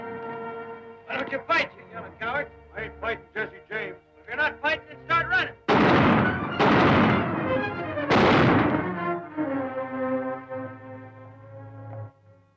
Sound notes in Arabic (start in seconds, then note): 5.6 صوت طلقات نارية